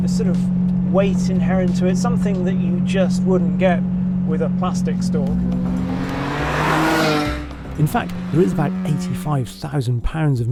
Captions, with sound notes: A sort of weight inherent to it, something that you just wouldn't get with a plastic stock. (engine revving) In fact, there is about 85,000 pounds